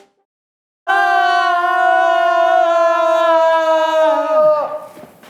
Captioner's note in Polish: krzyk